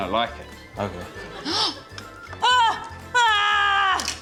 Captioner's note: gasps; yells